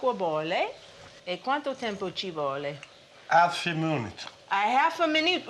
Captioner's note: speaking Italian